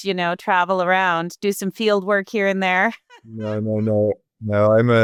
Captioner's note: laughing